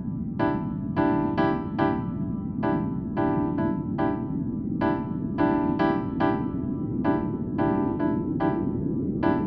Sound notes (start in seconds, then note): 0.0 building white noise